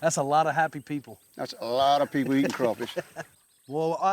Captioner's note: chuckling